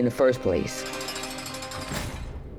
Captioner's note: metal door clanks